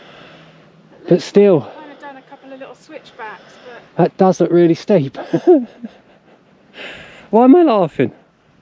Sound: laughter

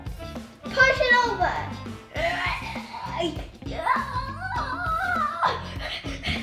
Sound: grunts and pants

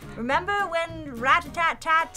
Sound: none

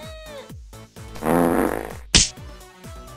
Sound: fart

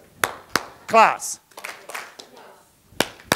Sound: clap, clap

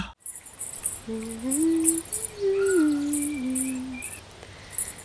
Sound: humming

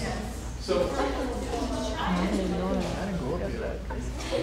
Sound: chattering

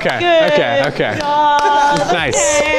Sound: clapping

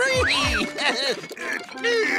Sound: chuckles

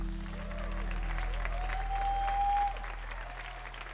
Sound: audience applauds

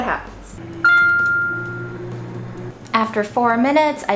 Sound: microwave dings

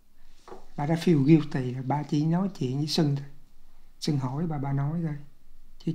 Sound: speaking foreign language

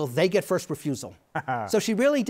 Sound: chuckles

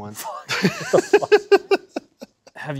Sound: laughing

